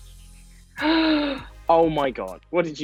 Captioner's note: upbeat music; Amita gasps